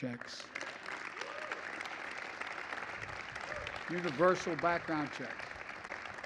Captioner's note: applause